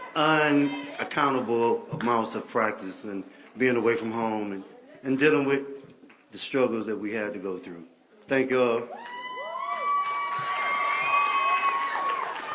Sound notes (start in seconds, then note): 9.0 applause